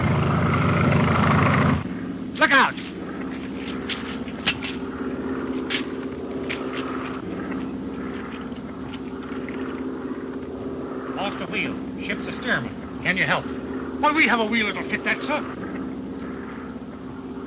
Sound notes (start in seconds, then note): 4.3 wrench clanking